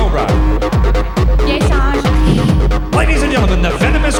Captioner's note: speaks Chinese